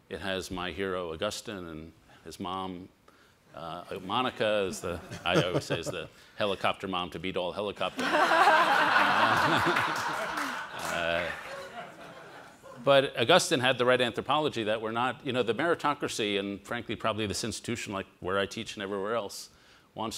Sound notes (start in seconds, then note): 8.0 all laugh